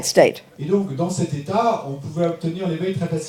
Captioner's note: speaking in French